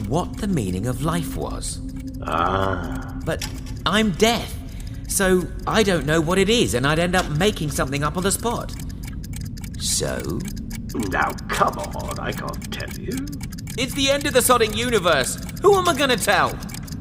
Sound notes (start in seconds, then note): 13.3 ticking growing in volume and speed